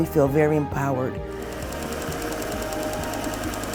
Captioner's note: machine whirring